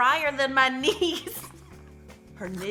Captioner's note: laughing